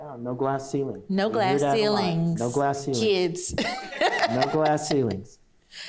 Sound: laughts

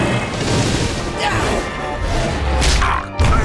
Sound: grunting

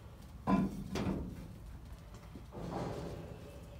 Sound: thermos thuds

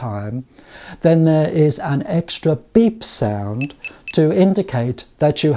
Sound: 3 beep sounds

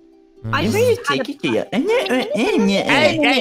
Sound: mocking

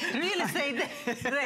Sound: laughter

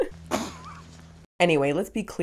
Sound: spitting; chuckles

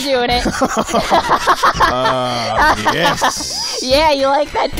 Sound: laughs

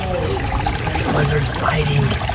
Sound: stream burbling

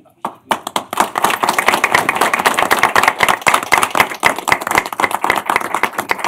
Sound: applause

